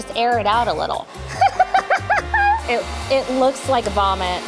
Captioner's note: laughing